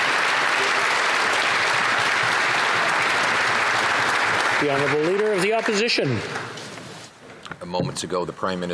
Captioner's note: applause